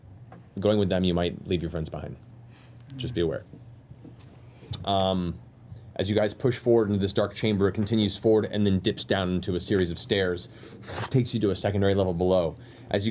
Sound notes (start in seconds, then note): none